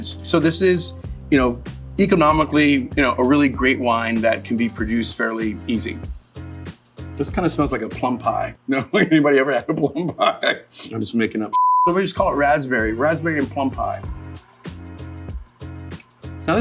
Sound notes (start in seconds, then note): 6.0 upbeat hip-hop music; 10.5 laughs; 14.2 upbeat hip-hop music